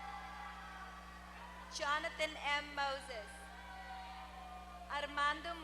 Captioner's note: applause